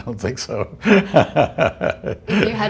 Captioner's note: laughter